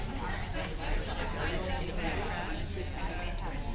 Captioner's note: chatter